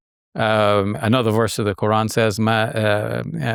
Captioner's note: speaks Arabic